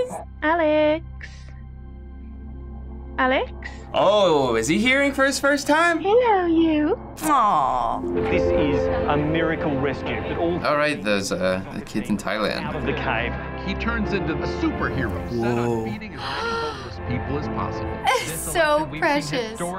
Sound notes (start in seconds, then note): 8.3 voice-over; 13.5 voice-over; 15.2 gasps